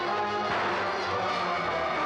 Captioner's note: ominous music; gun fires